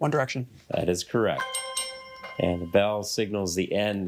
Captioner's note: bell dings